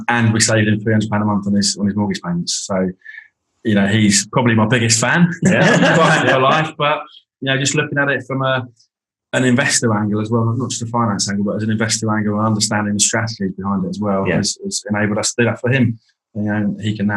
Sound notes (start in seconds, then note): 5.2 group laughing